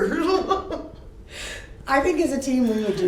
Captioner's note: laughs